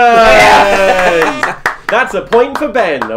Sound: cheering

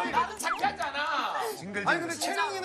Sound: laughing

